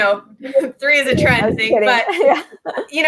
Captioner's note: laughs